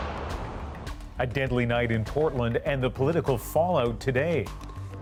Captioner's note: gunshots